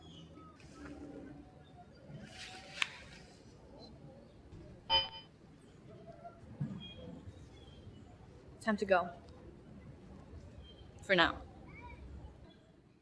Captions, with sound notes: (watch chiming) Time to go, for now.